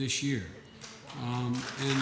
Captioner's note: applause